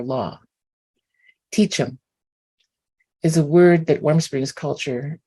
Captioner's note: non-english